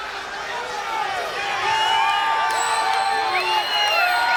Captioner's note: audience cheering